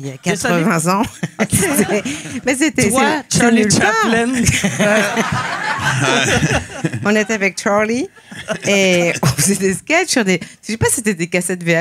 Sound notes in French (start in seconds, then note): 4.0 rires